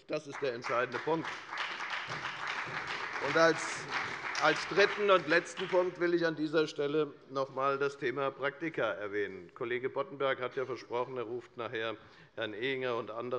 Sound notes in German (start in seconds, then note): 1.8 Beifall bei der FDP und der SPD